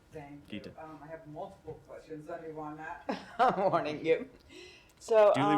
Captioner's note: laughter